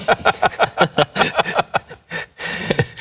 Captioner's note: laughter